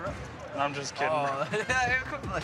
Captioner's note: laughs